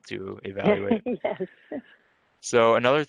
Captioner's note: giggles